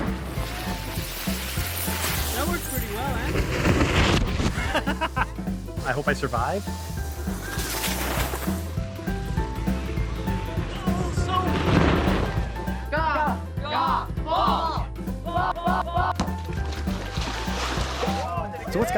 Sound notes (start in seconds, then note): 2.4 sounds of crashing; 4.3 sounds of crashing; 4.5 laughing; 8.3 upbeat music; 12.1 upbeat music